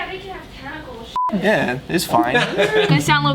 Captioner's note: laughs